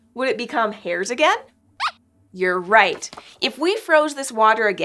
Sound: squeaks squeaks

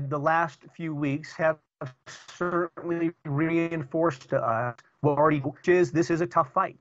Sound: audio corruption

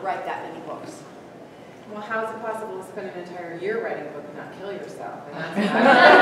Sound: laughter

